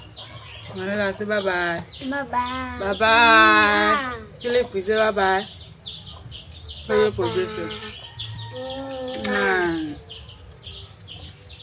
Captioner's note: kisses